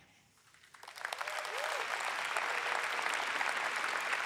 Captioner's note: audience applauds